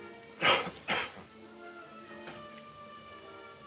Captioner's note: coughs